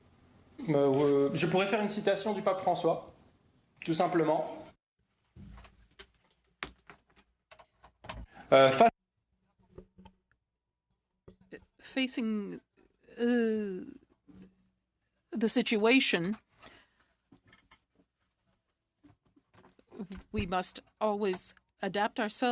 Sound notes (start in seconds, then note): 6.0 speaking French